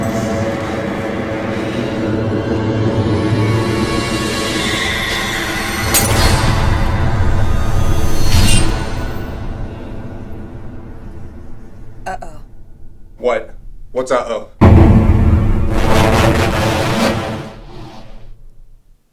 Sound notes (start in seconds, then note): 0.3 dramatic music; 5.5 orb shattering; 14.6 dramatic music